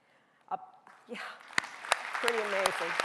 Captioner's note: audience applauding